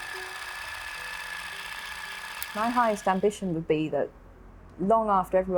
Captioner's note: film whirring